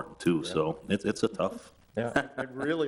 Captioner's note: man laughing